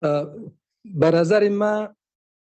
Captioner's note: speaking dari